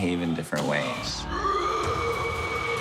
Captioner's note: moaning